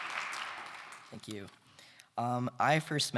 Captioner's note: applause